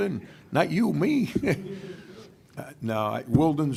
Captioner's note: laughing